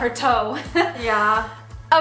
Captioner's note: laughs